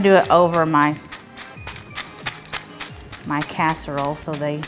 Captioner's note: chips crunching